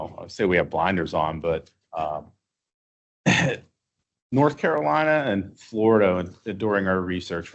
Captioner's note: clears throat